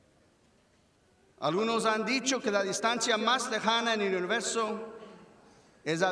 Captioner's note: speaks in foreign language